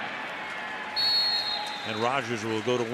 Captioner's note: whistle blows